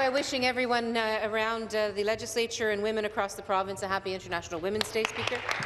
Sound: applause

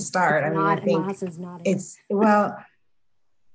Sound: overlapping muttering

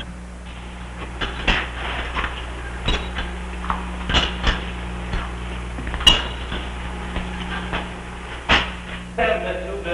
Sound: Sounds of Mr. Horace pacing in his cell

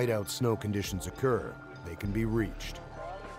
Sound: voiceover

